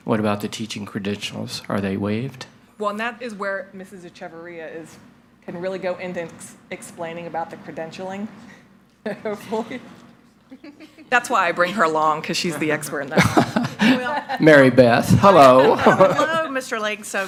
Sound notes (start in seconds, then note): 10.4 chuckles